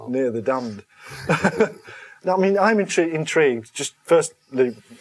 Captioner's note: laughs